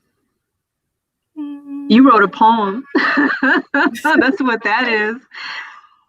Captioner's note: laughs